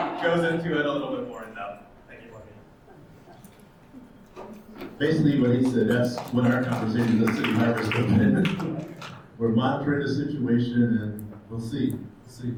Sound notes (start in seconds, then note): 0.0 attendees laughs; 5.3 attendees applauds